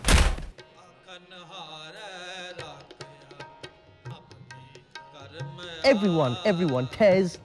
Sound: spiritual program playing on TV

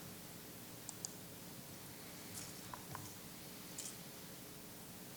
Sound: chair creaking; mouse clicking

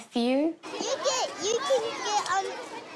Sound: children chatter

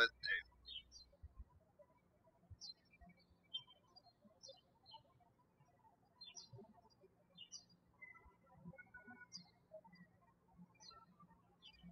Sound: birds chirping

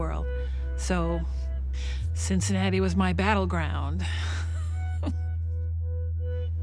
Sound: laughs

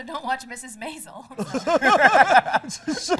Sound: laughter

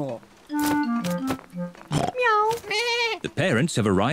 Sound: all makes animal sounds

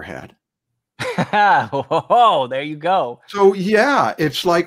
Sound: laughs

